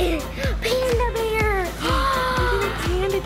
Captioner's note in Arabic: يضحك; يلهث